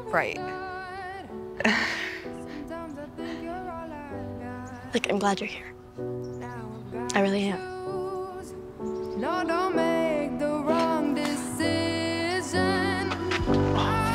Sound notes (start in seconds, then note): 1.6 both laugh